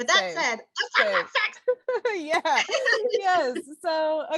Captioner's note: laughter